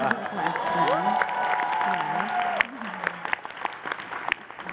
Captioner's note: applause